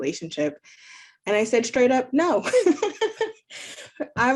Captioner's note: laughing